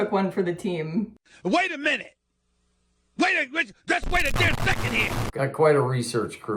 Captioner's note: distortion